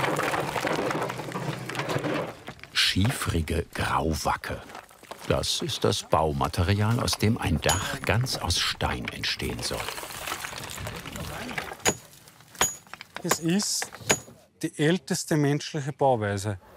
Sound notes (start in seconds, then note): 10.7 quiet conversations